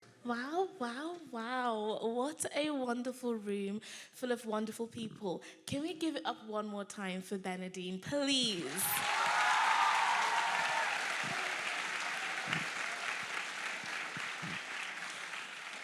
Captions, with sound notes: - Wow, wow. wow. What a wonderful room full of wonderful people. Can we give it up one more time for Bernardine, please? (audience applauding) (audience cheering)